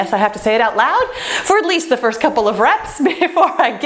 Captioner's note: laughs